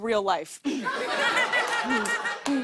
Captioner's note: laughter